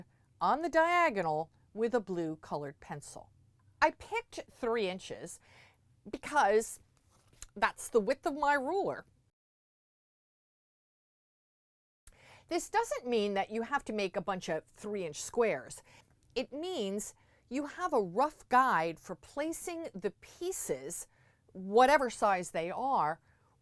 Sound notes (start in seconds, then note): 9.3 no Sound Present